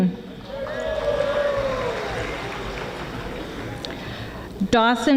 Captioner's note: audience applauding